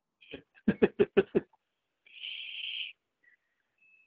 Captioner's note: man laughs